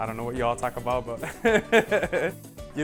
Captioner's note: laughing